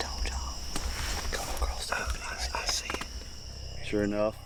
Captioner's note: whispers